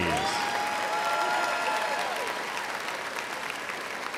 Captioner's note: crowd applauds